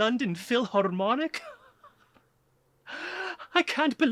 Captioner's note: laughing; laughs